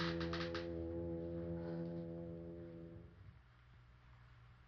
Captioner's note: chair creaks; sighs